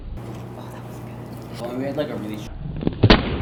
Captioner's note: whispering